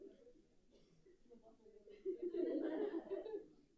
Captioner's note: group chattering; group laughs